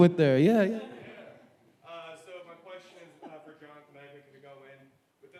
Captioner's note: speaking faintly